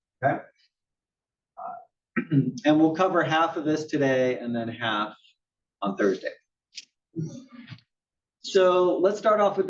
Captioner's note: cough